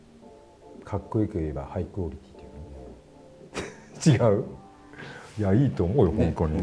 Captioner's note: laughs